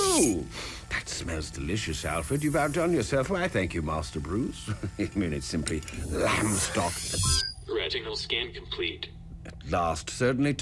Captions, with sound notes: [sniffs] That smells delicious, Alfred. "You've outdone yourself." Why, thank you, Master Bruce. [chuckles] I mean, it's simply lamb stock-- [electronic beep] - Retinal scan complete. - At last, certainly took your--